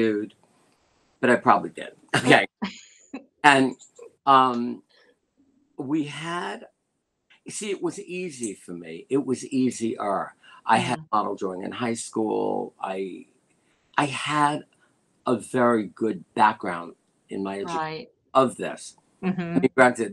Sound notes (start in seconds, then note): 2.0 laughter